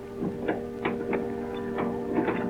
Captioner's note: none